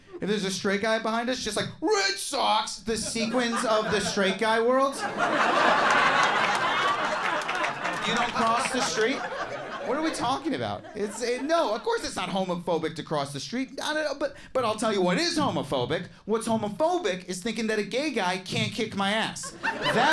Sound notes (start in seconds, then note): 5.0 audience laughs and applauds; 19.4 audience laughs